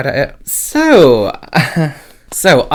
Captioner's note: chuckles